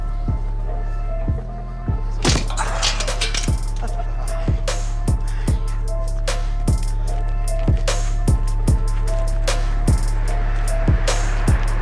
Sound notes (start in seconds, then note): 0.1 beat music playing; 2.2 lock smashes